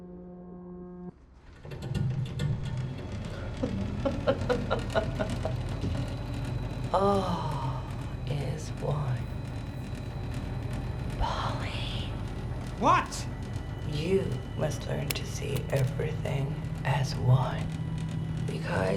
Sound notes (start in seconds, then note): 3.6 woman laughing